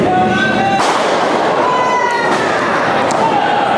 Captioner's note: body slamming